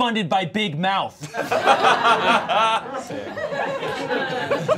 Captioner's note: all laughing